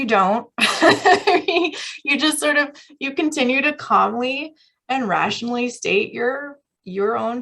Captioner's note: laughter